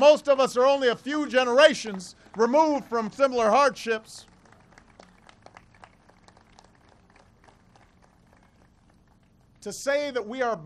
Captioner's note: applause